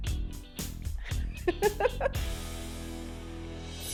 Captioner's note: laughs; fading music